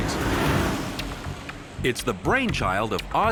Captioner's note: airboard whirring; upbeat energetic music